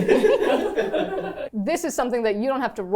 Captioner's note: everyone laughing